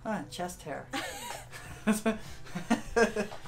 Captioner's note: laughter